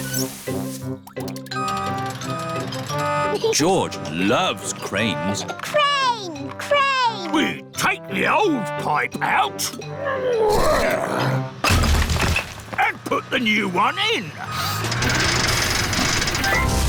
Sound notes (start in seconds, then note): 1.4 crane beeping; 5.2 giggles; 9.6 grunting